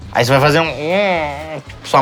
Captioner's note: som de dor e raiva